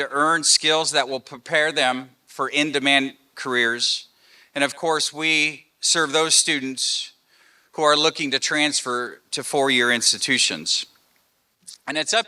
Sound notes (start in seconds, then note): none